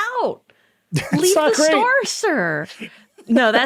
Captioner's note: laughing